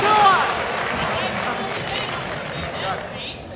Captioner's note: applause